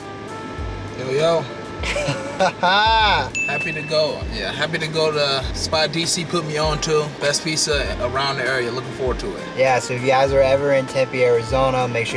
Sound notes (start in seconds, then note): 0.2 smooth, jazzy music; 1.8 laughs; 3.3 dings